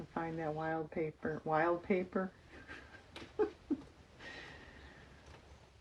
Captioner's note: laughs